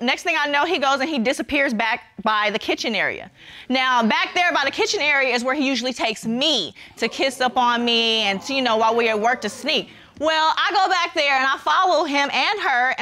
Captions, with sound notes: Next thing I know, he goes and he disappears back by the kitchen area. Now, back there by the kitchen area is where he usually takes me -to kiss up on me... -[audience exclaims] ...and, you know, while we at work to sneak. Well, I go back there and I follow him and her